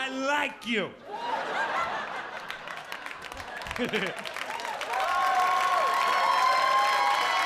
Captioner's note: audience laughing; audience cheering